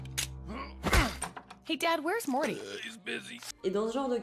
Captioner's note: burps